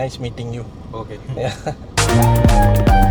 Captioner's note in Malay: laugh